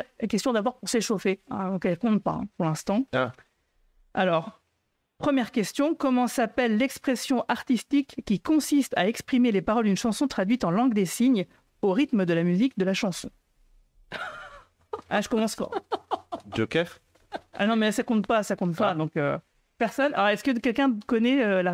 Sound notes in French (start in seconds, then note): 14.8 Rires